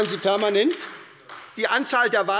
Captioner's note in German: Beifall bei der SPD